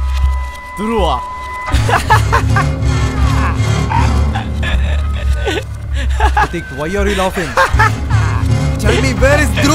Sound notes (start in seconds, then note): 1.7 Pradhik laughs